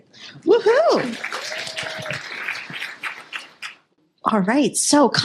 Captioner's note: applause